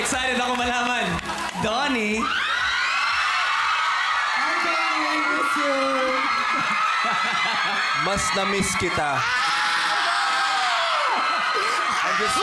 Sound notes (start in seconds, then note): 3.1 crowd screams; 8.8 screams